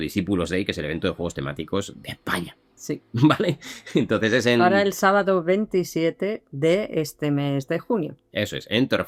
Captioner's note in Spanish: risas